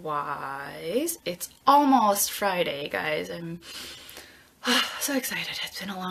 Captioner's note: sighs